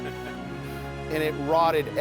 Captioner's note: chuckles